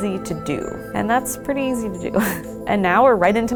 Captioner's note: laughs